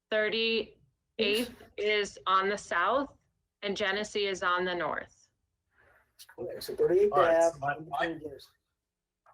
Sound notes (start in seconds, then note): 1.3 audio distortion